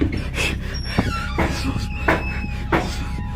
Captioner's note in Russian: стук